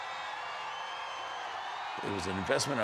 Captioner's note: audience cheers and applauds